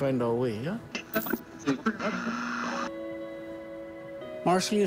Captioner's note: static crackles